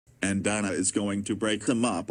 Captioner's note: none